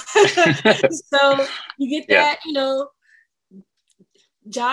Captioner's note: all laugh